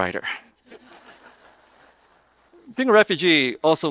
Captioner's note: audience laughing